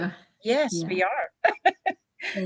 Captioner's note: laughs